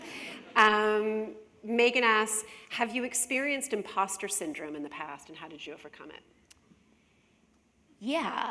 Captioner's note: laughter